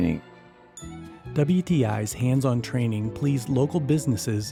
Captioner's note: voiceover